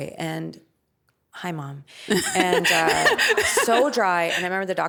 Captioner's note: laughing